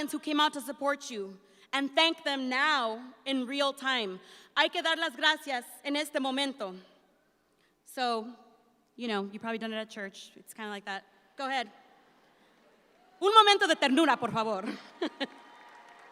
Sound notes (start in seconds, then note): 4.7 speaks in Spanish; 13.4 speaks in Spanish and laughs; 15.0 audience applauds